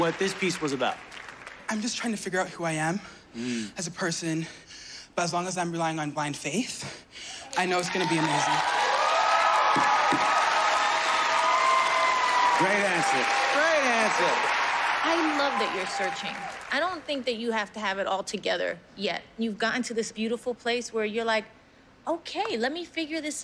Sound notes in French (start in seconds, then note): 8.7 applause